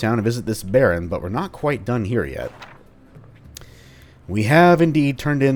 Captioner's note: journal opens